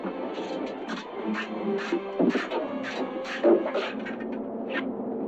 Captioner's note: swords clashing